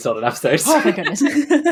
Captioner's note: laughs